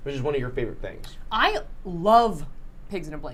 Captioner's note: none